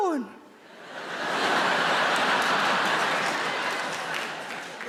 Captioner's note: audience laughs